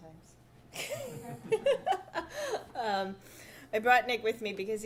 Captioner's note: audience laughing